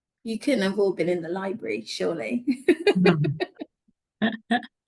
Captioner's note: laughs